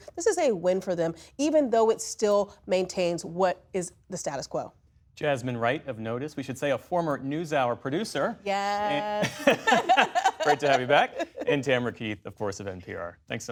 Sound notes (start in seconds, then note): 9.1 laughter